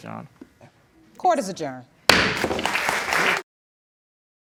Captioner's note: bangs gavel